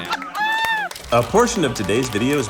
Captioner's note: audience laughs